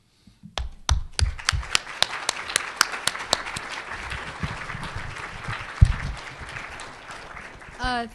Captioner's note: applause